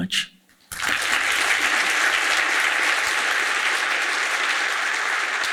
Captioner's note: audience applauding